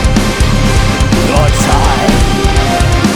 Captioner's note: growling